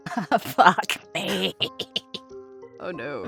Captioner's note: laughs